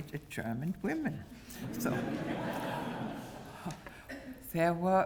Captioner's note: laugh